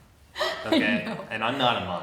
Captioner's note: laughs; laughing